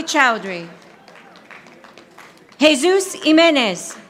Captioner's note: audience applauding